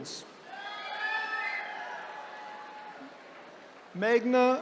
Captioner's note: attendees cheering